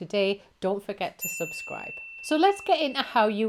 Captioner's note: bell chimes